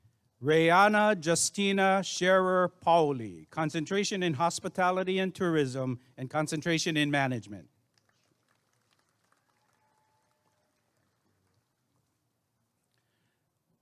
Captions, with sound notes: Rayanna Justina Sharer Pauley Concentration in Hospitality and Tourism and Concentration in Management [applause and cheering]